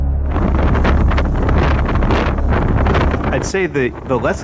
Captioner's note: fire flames crackling